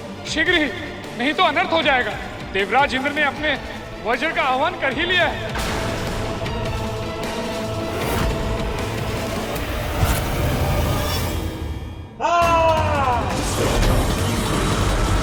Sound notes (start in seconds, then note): 12.2 screams